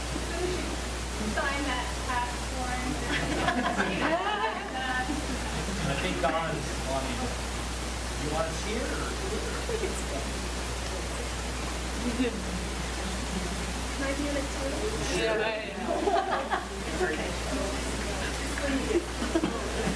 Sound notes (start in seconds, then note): 3.0 laughter